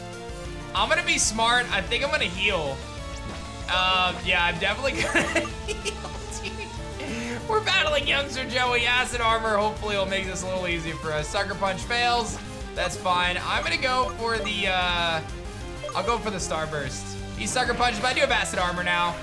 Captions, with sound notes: I'm going to be smart. I think I'm going to heal. Yeah. I'm definitely going to... (laughs) We're battling Youngster Joey. Acid Armor hopefully will make this a little easier for us. Sucker Punch fails. That's fine. I'm going to go for the... I'll go for the Star Burst. He Sucker Punch, but I do have Acid Armor now.